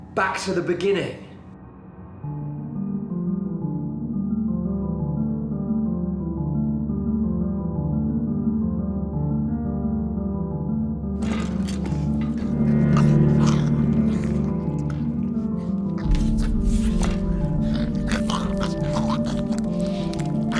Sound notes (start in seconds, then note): 2.6 light dramatic music; 13.3 mouth squishing; 13.3 woman grumbling